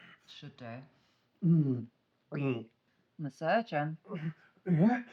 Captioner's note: Solent gulping liquor; Solent groans